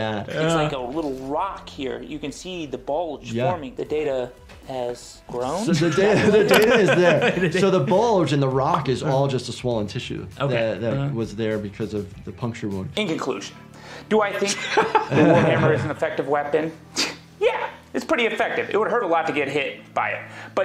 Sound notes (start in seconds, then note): 5.8 laughing; 14.3 laughing